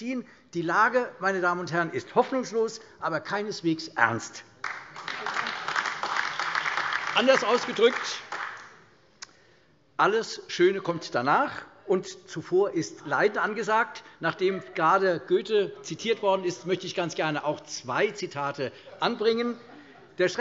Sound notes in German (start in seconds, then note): 4.6 Beifall AfD